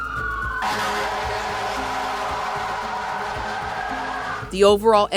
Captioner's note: siren blaring; fire truck horn honking